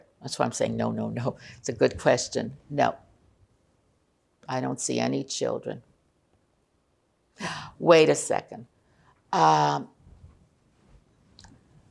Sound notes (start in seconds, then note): 7.1 gasping